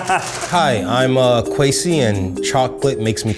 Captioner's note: laughs